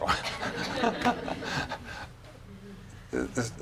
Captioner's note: laughing